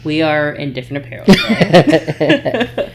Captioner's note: laughing